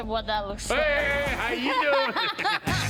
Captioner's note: all laughing; upbeat jazzy music